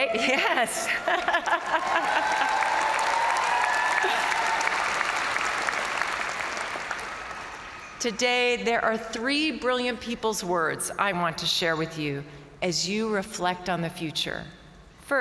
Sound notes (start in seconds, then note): 0.1 laughing; 1.0 crowd cheering; 1.1 crowd applauding